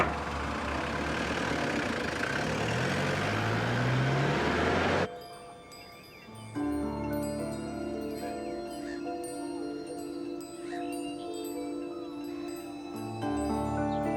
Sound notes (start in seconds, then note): 0.0 engine revs; 0.2 brooding music; 5.0 wind chimes ring